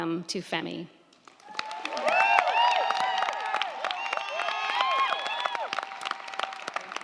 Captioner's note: crowd clapping; crowd cheering